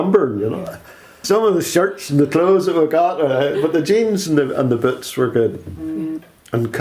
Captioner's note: laughs